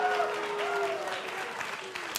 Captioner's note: cheers & applause